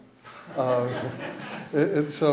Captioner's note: laughter